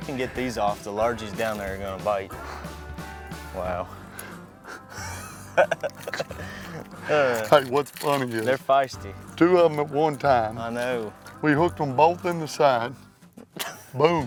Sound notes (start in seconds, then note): 3.4 laughs